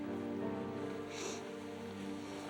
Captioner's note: sniffles